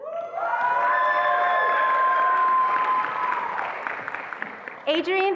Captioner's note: attendees applauding and cheering